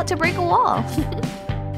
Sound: chuckle

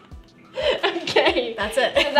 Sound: laughing

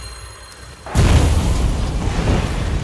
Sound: explosion

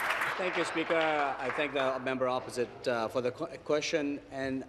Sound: applause

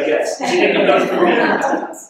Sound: laughing

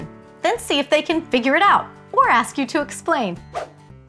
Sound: none

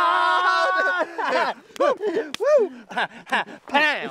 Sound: laughter

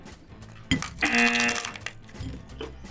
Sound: buzzer rings

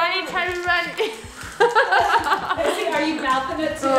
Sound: laughing

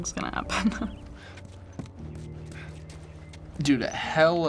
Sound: Joel huffs

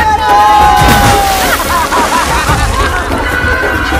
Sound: laughing

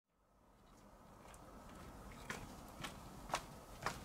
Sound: distant footsteps; close footsteps

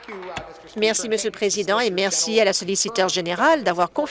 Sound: applause

